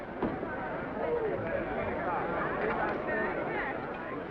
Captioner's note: all chattering